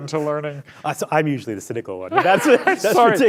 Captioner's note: laughs